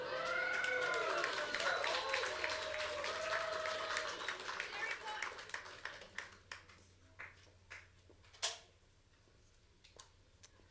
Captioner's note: applause